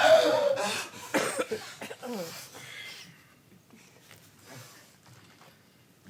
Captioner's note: dancer shrieks